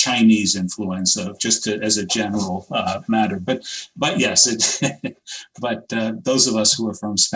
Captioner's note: laughs